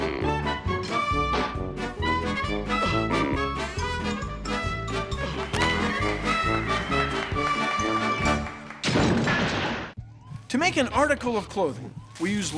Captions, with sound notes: [ APPLAUSE ] [ CRASH! ] TO MAKE AN ARTICLE OF CLOTHING,